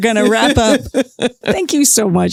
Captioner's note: laughs